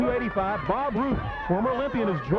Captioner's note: crowd clamoring; footsteps plodding